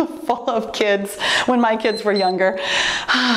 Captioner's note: timer beeps